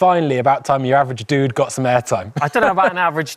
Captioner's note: laughs